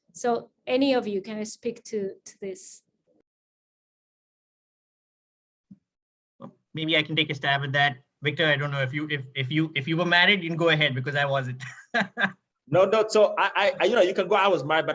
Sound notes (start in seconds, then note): 11.7 laughing